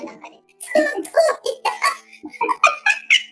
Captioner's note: laughs